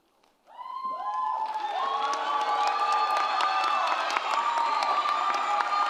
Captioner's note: audience cheers and applauds